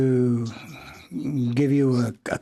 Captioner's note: speaking in French